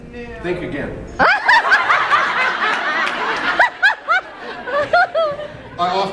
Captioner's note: laughs